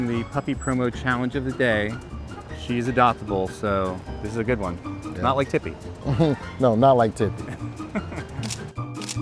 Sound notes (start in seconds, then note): 7.3 laughs; 8.7 upbeat music; 8.9 camera shutter clicking